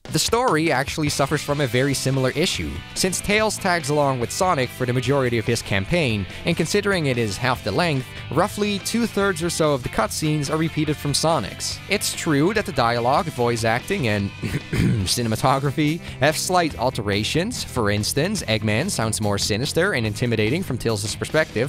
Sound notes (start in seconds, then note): 14.2 cough